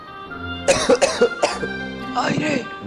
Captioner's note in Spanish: toser